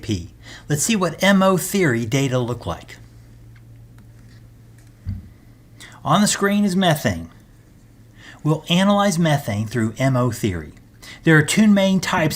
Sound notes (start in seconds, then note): 4.0 turn page